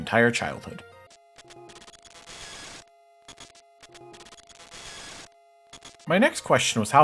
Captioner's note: GBA crash sound